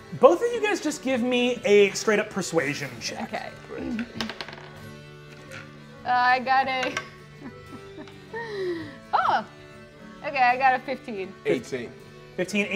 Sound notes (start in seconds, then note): 4.0 dice rolling; 7.4 laughs